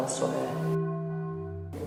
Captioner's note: church bells chiming